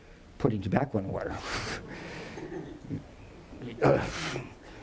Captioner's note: audience chuckling